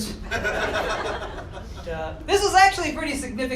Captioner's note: laughter